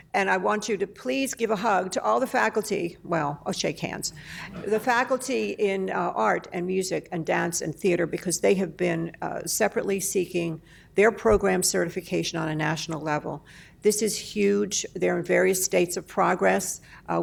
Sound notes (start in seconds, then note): 4.5 laughter